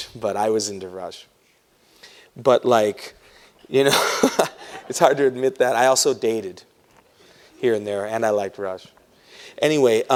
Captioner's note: laughs